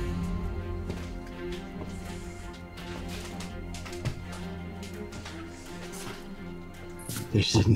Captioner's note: suspenseful music continues; footsteps thud